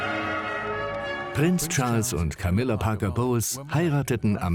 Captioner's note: voiceover